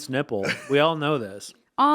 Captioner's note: chuckling